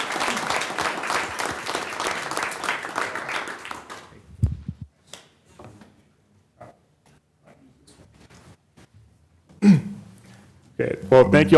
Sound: applause

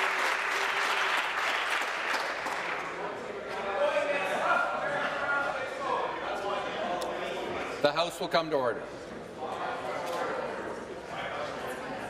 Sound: some applause

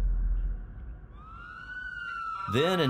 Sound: sirens wailing

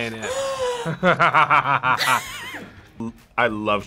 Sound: React gasps; laughs

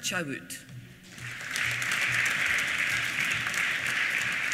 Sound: applause

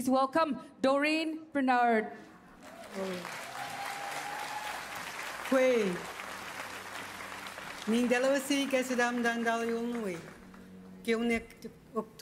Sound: speaking Indigenous Language

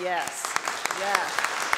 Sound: audience applause

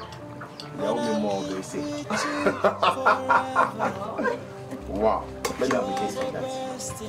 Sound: speaking in foreign language and laughing

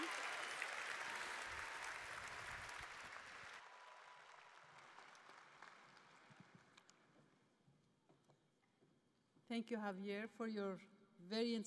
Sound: cheers and applause

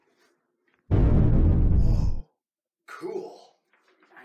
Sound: explosion

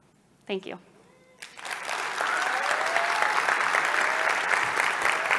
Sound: applause

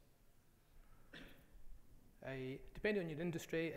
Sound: audience member coughs

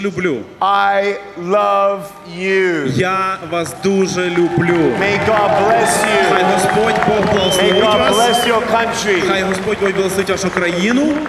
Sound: applause

